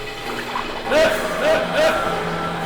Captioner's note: yell